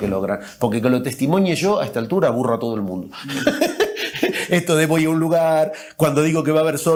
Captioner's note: laughs